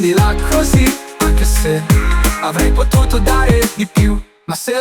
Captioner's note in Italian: mmm